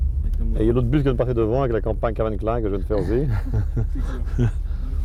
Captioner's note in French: rires